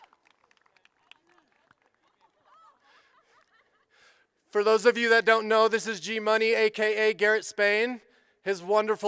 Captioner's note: applause